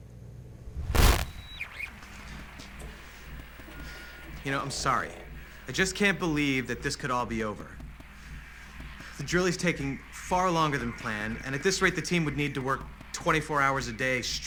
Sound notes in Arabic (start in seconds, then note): 1.0 راديو ثابت